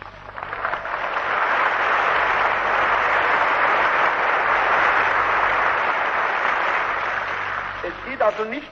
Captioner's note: applause